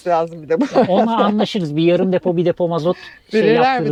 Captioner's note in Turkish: kahkaha